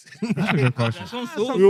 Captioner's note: laughing